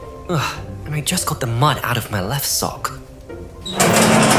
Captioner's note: groans